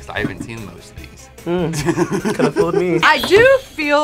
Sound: laughs

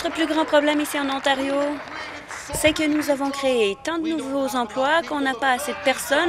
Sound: applause

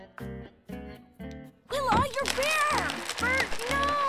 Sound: cracking noises

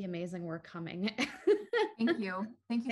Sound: laughing

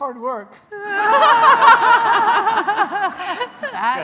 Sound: laughing

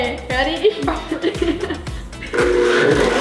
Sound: whispers; loud blending

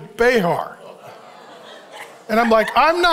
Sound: audience moans

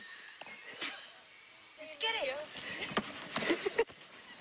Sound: laughter

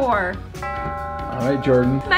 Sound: clock chiming

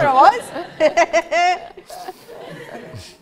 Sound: susan laughs

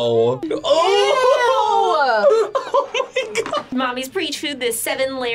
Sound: laughs

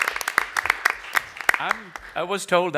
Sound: applause

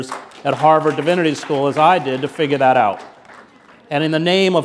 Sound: applause

